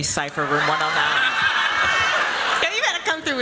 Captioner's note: laughter